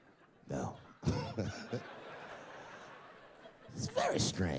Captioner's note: laughs quickly